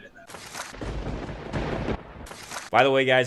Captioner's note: thunder crackling